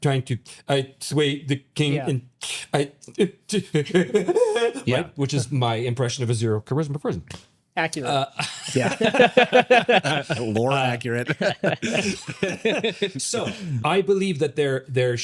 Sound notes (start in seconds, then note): 3.6 laughing; 10.0 laughing